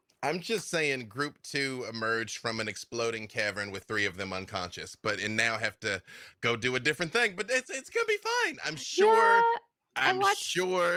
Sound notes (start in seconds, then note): none